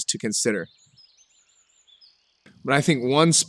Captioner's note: birds chirping